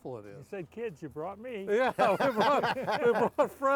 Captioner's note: all laughing